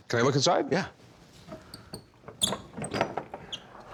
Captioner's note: clasps and hinges squeak